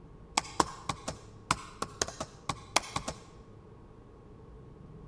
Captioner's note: keyboard clicking sound